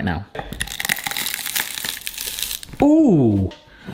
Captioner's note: walnuts cracking